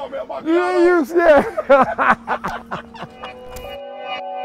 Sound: laughs

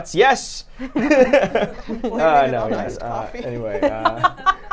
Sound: everyone laughs

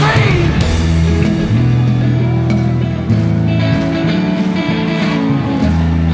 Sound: upbeat hard rock continues; audience claps

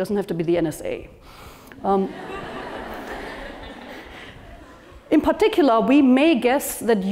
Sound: laugh

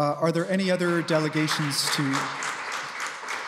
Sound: applause

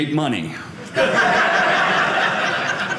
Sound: audience laughing

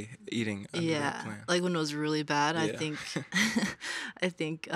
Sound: chuckles

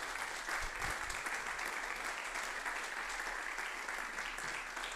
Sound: audience applauding; generous applause ringing

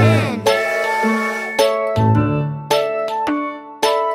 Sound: train whistles

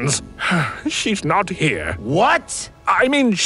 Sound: sigh

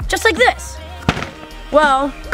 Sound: ball hitting board

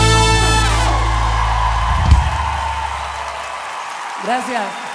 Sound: Gritos y aplausos

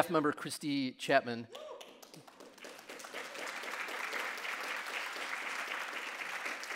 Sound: audience cheering and applauding

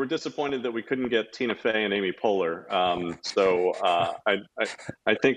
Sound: laughs quietly

